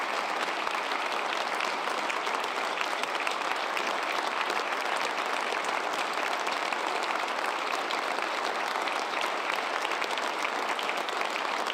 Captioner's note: applause